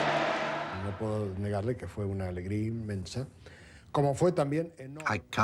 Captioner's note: man speaking in foreign language